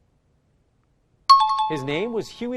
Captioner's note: chiming